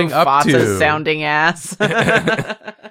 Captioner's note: laughs